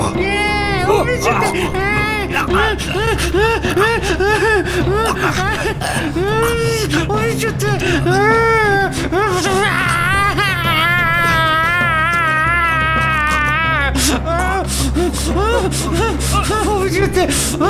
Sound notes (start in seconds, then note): 1.7 Peter chokes; 1.7 nerd hysterically moans; 9.1 nerd continues to scream chaotically and yells while strangling Peter